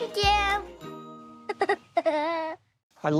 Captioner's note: giggle